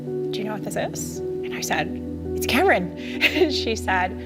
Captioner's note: giggles